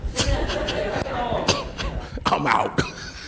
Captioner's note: laughing